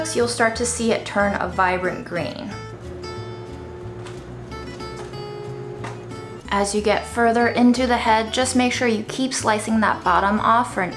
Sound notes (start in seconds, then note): 2.5 upbeat instrumental music; 2.7 cabbage leaves slapping